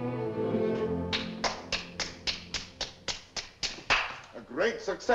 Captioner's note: Cyrano claps his hands